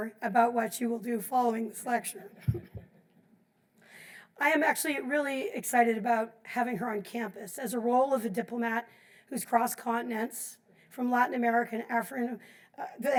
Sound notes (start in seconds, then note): 2.3 group laughs